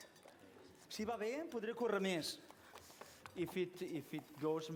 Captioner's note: non-english speech